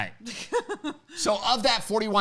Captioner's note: laughing